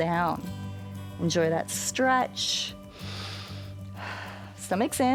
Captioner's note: inhales and exhales